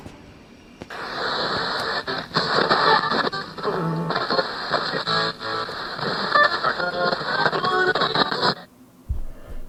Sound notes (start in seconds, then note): 0.8 radio static crackles; 0.8 stations rapidly switching